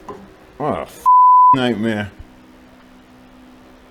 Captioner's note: beep